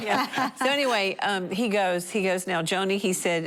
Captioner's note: laughter